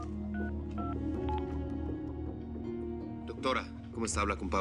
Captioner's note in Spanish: Ruido al marcar por teléfono